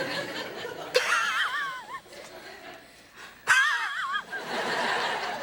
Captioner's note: audience laughing; fake laughs